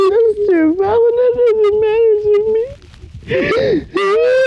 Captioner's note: sobbing